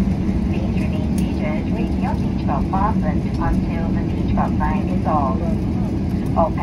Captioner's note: arrival announcement in English